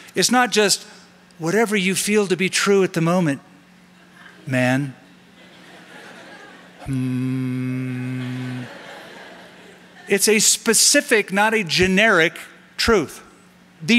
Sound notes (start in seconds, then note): 6.8 humming; 8.0 laughter